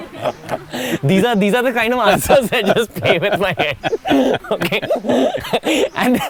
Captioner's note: both laugh